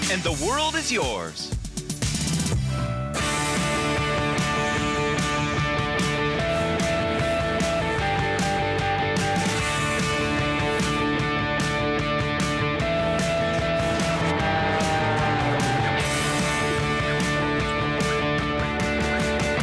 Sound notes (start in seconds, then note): 4.1 upbeat rock music; 15.1 engine whirring